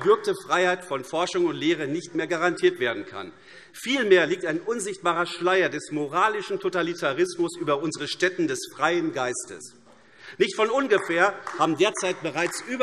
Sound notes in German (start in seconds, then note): 10.5 Beifall AfD